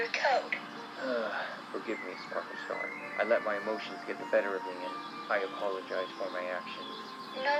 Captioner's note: sigh